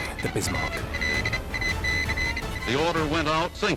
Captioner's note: beeping continues